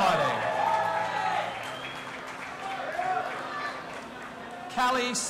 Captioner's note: audience applauding and cheering